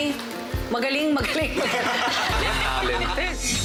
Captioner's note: laughing